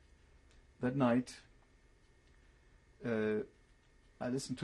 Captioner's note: pauses for 3 seconds